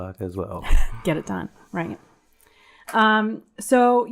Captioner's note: chuckles